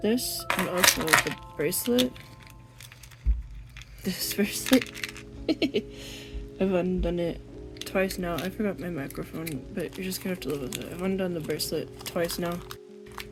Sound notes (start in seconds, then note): 5.4 laughs